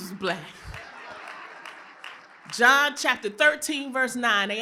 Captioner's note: applause; laughter